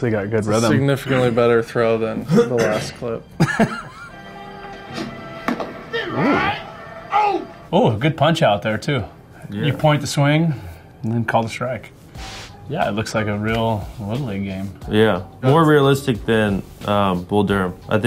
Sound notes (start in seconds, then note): 3.4 Justin laughing